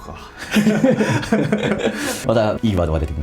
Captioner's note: laughs